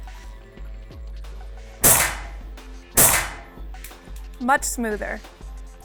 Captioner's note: suppressed gunshot